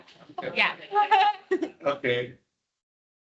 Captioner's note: audience chuckles